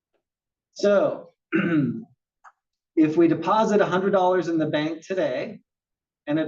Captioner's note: cough